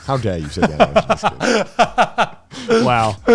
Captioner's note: laughing